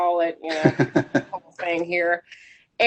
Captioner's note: laughs